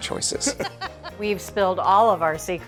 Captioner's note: laughing